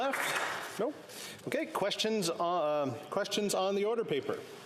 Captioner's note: some applause